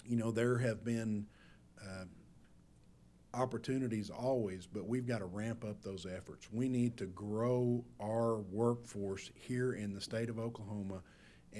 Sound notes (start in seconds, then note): none